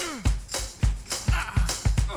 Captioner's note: groans in old aged man's voice